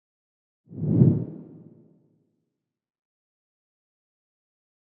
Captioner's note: logo whooshing